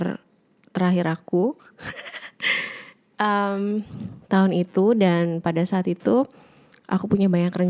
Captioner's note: giggle